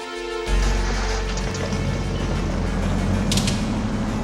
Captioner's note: boat motor rumbling